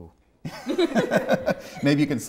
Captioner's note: laughs